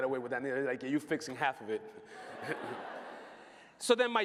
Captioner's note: laughter